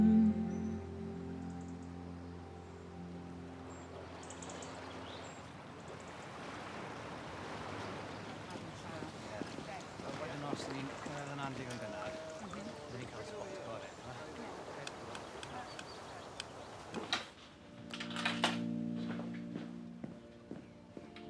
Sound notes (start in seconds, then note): 0.0 music fades out; 5.6 birds chirp, water laps gently